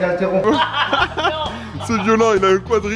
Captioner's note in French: rire